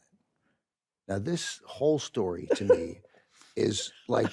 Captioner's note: carol chuckles